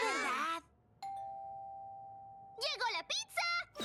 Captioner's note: doorbell rings